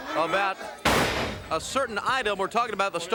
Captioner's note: body thudding